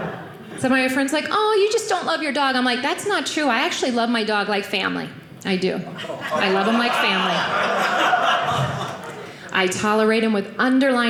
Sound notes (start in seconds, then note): 7.4 audience laughing